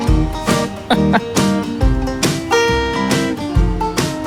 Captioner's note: chuckles